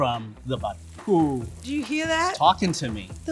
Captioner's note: butter sizzling